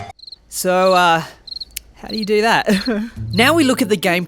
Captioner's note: crickets chirping